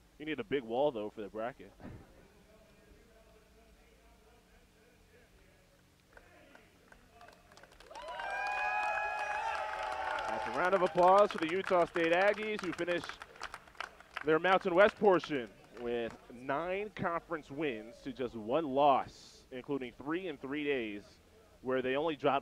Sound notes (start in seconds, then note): 7.2 cheering and applause